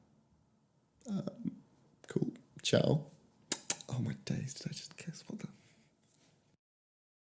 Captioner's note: kissing sounds